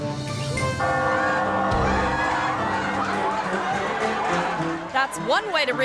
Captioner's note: bell dings; crowd laughing